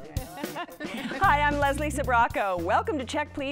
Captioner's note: laughs